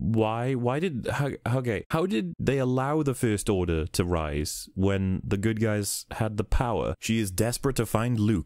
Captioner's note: stammers